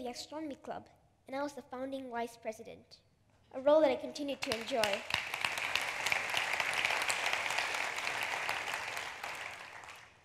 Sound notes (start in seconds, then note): 4.5 laughter/applause